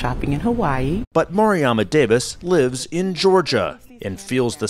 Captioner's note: voice-over